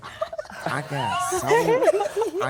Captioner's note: group laughs